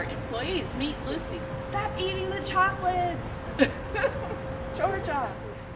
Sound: laughs

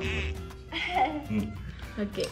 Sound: giggle

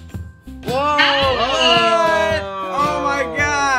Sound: group exclaiming

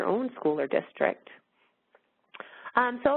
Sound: pause

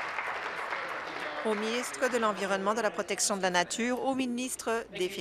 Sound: applause

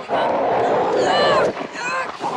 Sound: grunting

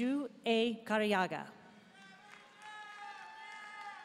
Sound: audience member shouting; audience cheering and applauding

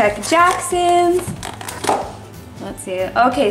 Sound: lid popping

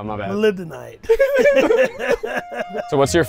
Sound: man and laugh

